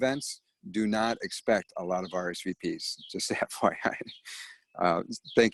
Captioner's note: laughs